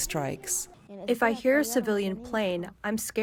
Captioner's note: through translator